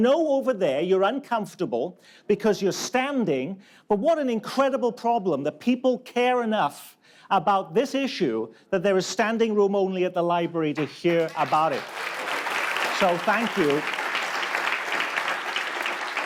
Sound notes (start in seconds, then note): 10.7 audience claps